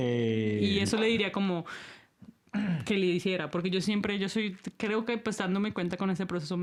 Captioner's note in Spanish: carraspeo